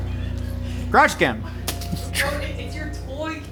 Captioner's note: concerning music; toy thudding